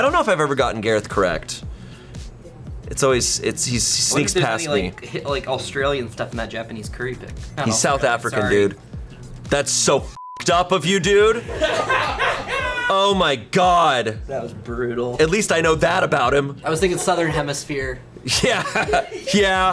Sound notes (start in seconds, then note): 10.1 beeps; 11.3 colleagues laughing; 18.2 laughs